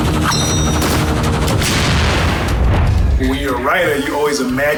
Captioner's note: knives tinging; helicopter exploding